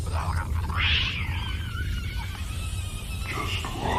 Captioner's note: shrieking